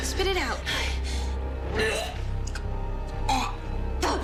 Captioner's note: vomiting